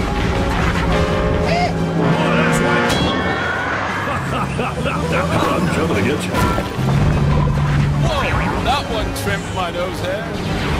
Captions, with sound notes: :O Eh? MOVE IT ASSWIPE! (Howie Scream) *Righteous, but also Maniacal Laughter* I'm comin' to get ya'! Woah! That one trimmed my nose hair!